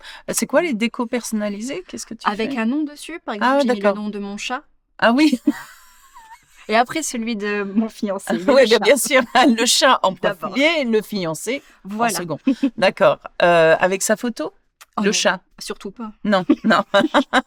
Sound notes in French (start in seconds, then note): 5.2 rires